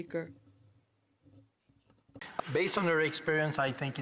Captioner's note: speaking in french